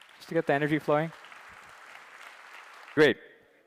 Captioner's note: applause